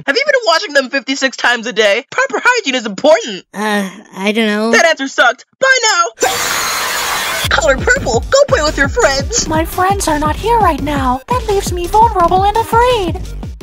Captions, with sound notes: Have you been washing them 56 times a day?? Have you been washing them 56 times a day?? Proper hygiene is important! Proper hygiene is important! Uh. I dunno. Uh. I dunno. That answer sucked! Bye now... That answer sucked! Bye now... (DEMONIC SCREAMING) (DEMONIC SCREAMING) Color Purple! Go play with your friends! Color Purple! Go play with your friends! My friends aren't here right now. That leaves me vulnerable and afraid! My friends aren't here right now. That leaves me vulnerable and afraid!